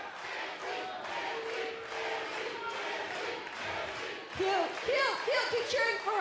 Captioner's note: fans chanting